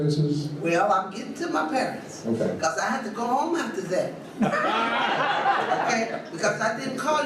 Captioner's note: audience laughs